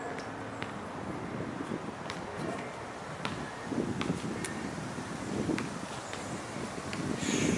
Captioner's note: leaves rustling; wind howling